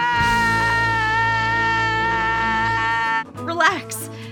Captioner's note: yelling